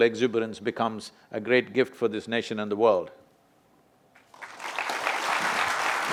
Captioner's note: applause